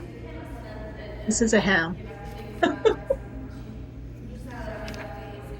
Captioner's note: chuckles